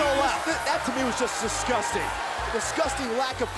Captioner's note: bell ringing